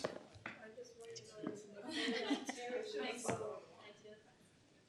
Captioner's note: group talking together